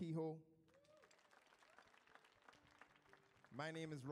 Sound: audience applauds

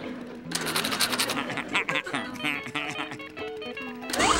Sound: giggling

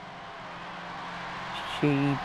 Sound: crowds cheering

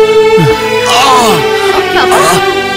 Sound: groans

